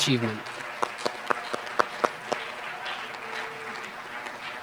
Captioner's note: applause